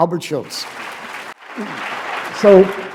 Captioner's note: applause